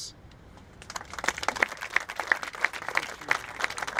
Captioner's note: applauding